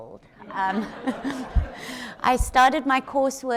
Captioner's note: audience laughs